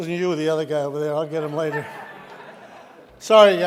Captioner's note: audience laughing